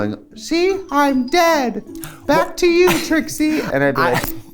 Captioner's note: high-pitched voice; laughs